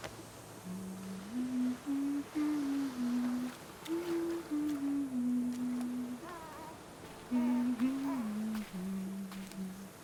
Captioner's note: humming